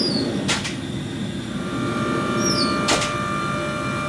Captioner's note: door clanging